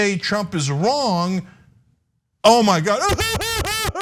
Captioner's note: laugh